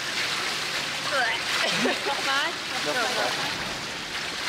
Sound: laughter

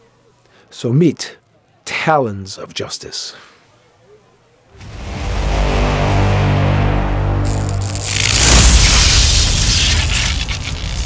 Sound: deep tones and electricity crackling

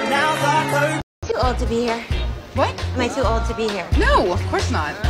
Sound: Tik Tok sound

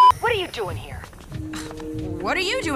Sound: scoff

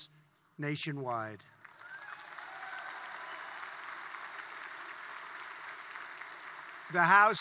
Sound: applause

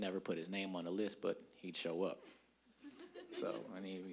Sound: audience chuckling

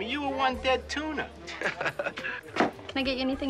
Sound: Steve chuckling

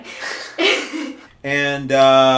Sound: both laughing

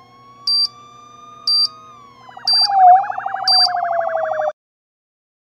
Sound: police sirens

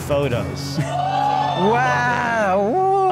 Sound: audience cheers

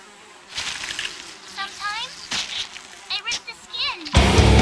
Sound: flies buzzing, skin tearing

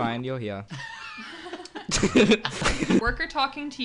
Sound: all laughing

